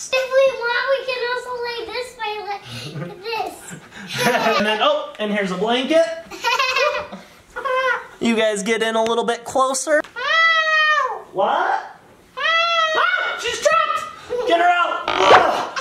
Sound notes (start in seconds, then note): 6.3 little girl laughing; 10.1 little girl screaming